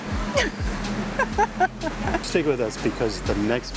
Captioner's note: laughs